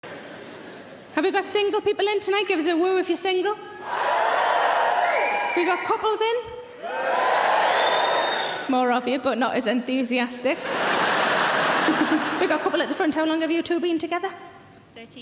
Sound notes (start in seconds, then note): 3.8 audience cheering; 10.5 audience laughing; 10.6 laughing